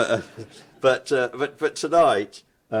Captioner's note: audience chuckles